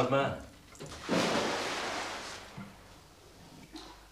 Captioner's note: water splashing